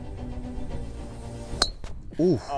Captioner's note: golf club thwacks